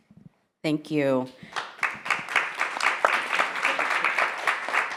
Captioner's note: attendees clapping